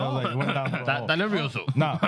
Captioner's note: speaking Spanish